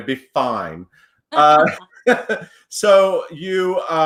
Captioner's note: laughs